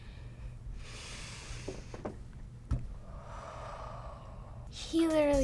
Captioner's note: takes deep breaths